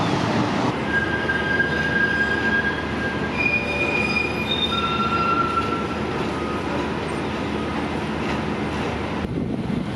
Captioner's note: train screeching